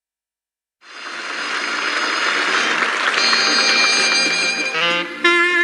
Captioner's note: audience clapping